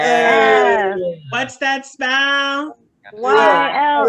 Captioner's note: attendees cheering "F"; Attendees chanting, mix of Y-L-F and YOLF, YOLF, YOLF!